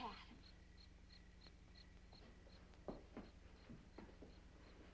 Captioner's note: insects chirping